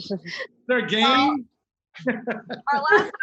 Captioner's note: laughing